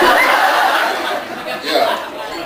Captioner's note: laughs